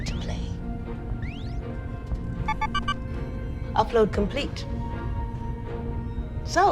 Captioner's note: device dings